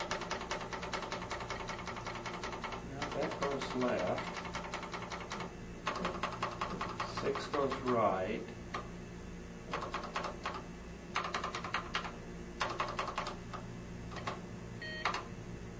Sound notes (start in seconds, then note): 9.3 keys clacking